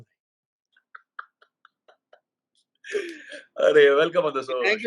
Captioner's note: laughter everywhere